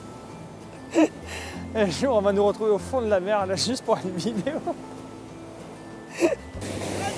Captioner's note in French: rires